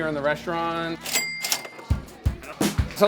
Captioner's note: cash register dinging